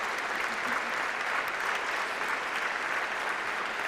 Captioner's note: applause